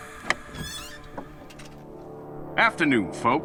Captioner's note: opens door